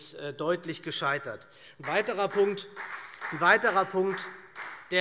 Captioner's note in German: Beifall SPD